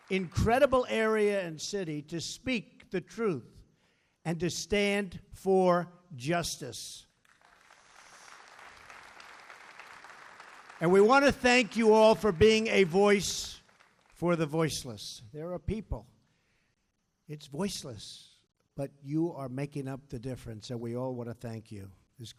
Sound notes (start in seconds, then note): 7.1 applause